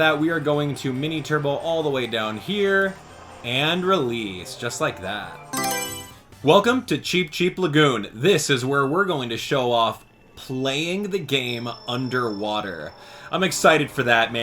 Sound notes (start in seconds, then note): 5.5 Mario Selection Sound